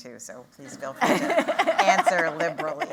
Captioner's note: laughter